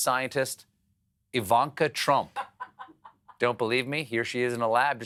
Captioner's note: laughter